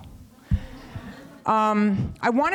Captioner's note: laughter